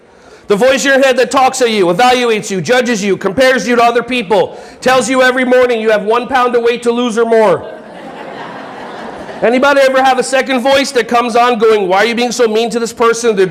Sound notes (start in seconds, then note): 7.6 audience laughing